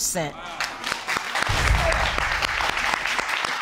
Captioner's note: audience applause